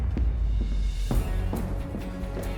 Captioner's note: bang; running steps